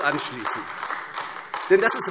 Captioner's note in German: Beifall AfD